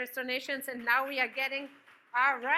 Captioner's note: audience claps